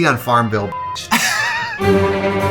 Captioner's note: dramatic music; laughs